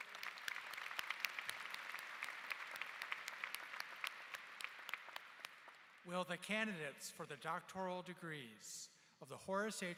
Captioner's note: applause